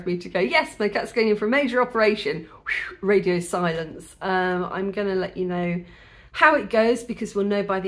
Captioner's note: whistle